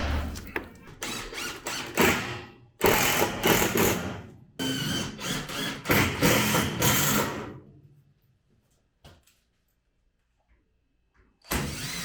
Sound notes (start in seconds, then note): 2.3 machine drilling